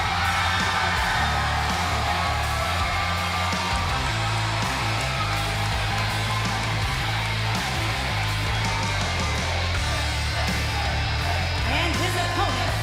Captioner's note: cheers & applause